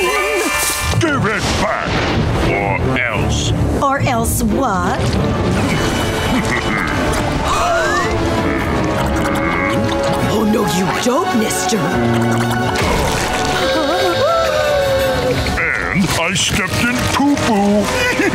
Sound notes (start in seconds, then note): 5.5 laughing; 8.2 gasping; 13.8 gasping; 17.8 chuckling